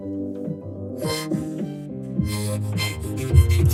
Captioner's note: panting